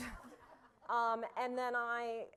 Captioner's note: laughter